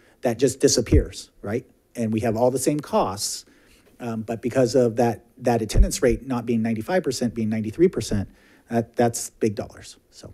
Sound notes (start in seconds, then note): none